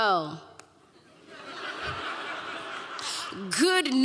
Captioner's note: audience laughing